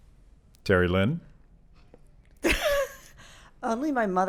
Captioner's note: laughs